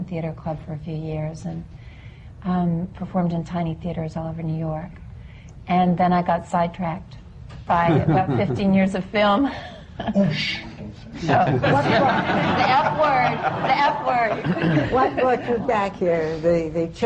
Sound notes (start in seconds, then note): 7.9 laughs; 14.2 laughter